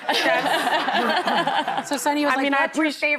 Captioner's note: laughing